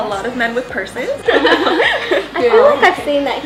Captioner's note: laughs